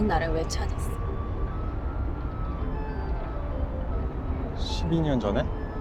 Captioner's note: speaking Korean